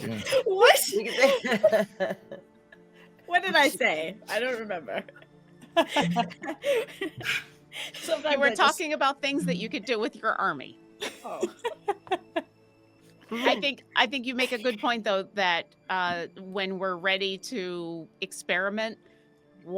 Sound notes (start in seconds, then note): 1.5 laughing; 5.6 all laughing; 11.0 laughing